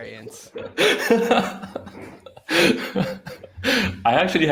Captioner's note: laughing